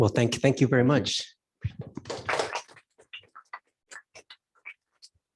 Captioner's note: applause